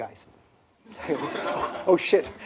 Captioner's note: laughter